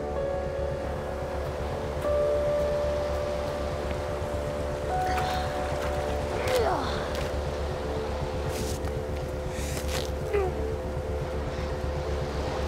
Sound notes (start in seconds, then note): 6.5 grunting